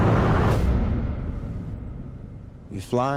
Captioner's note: wind rushing; air whooshing